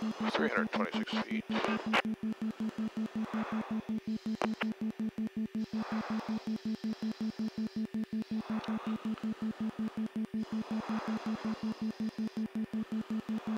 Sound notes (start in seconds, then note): 1.7 series of rapid beeps